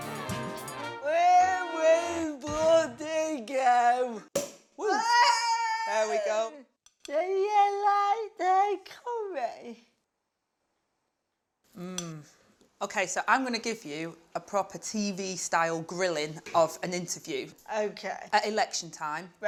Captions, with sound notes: Here we bloody go. [CORK POPS] [CHEERS] There we go. Do you like the curry? Mmmm Okay, so I'm gonna give you a proper TV-style grilling of an interview. Okay. At election time,